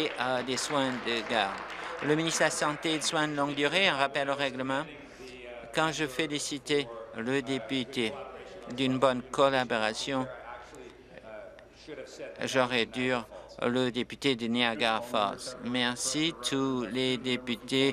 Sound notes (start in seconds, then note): 4.2 applause